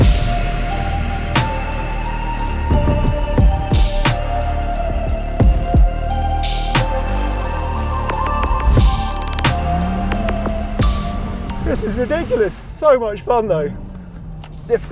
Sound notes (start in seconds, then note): 0.2 gentle upbeat music; 10.5 car engine revs